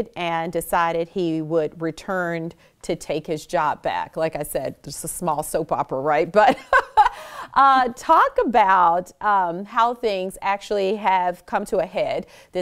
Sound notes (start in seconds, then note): 6.5 laughs